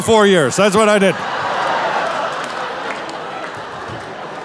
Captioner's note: audience laughing